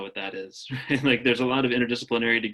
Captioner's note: laughs